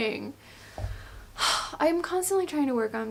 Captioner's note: sighs